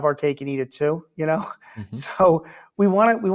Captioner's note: laughs